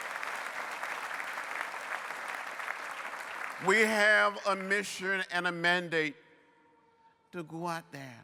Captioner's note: applause